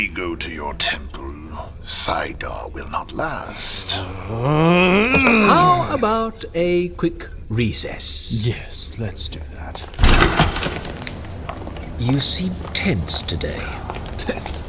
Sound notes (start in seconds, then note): 9.9 door bursting open